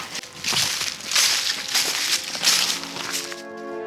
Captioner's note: leaves crunch; dramatic music